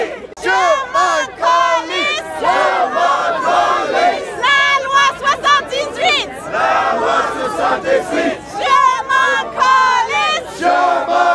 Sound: crowd

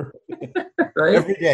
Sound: both laugh

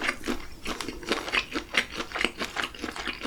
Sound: Crunch

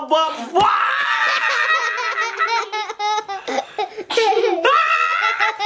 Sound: child laughing and screaming

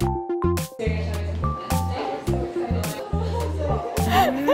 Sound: enthusiastic chatting

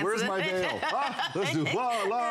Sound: laughter

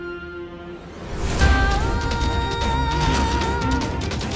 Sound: emotional vocalising

